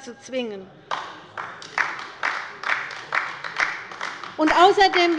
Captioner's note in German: Beifall bei der LINKEN